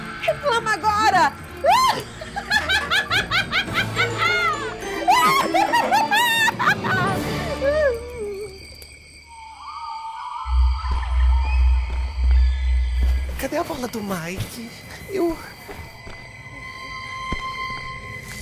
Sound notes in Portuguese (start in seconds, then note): 4.6 risada maligna; 9.5 grilos cricrilando